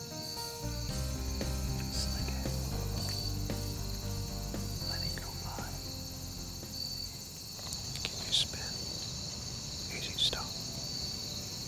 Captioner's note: whispering